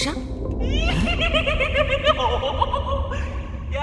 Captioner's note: creepy laughter